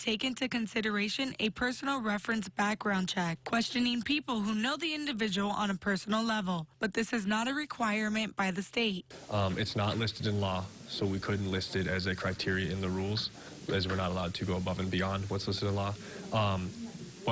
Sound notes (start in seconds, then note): 9.1 sound bite